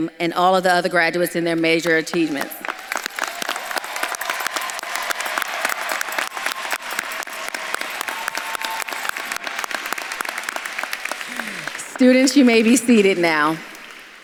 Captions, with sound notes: and all of the other graduates in their major achievements? (audience claps and cheers) Students, you may be seated now.